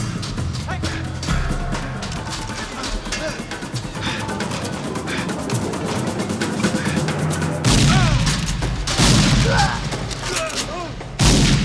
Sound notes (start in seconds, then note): 7.6 gunshot